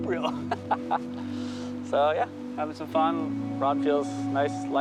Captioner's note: laughing